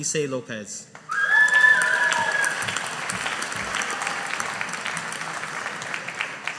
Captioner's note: audience applauding